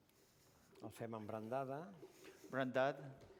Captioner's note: non-english